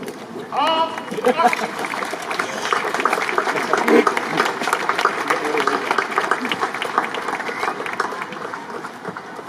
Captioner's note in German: Applaus